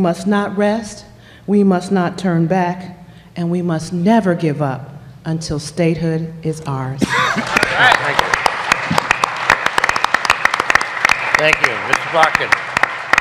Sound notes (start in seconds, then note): 7.3 applause